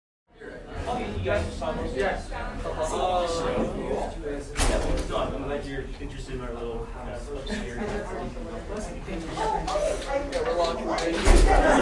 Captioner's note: crowd chatter